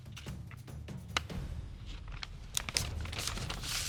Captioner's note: papers rustling